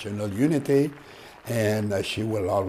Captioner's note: applause